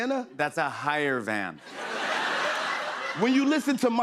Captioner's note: laughter